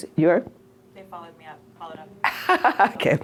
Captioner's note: voiceover